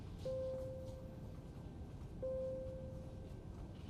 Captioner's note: machine beeping